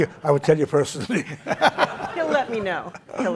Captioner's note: laughter